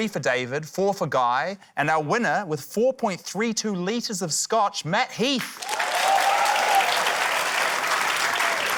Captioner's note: cheering, applause